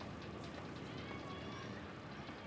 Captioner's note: child shouting